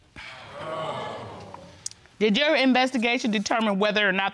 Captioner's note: audience exclaims